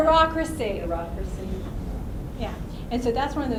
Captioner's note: voiceover